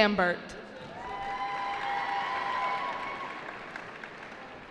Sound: cheering

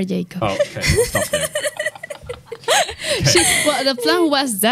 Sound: laughs

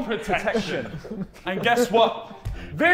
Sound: Sidemen laughing

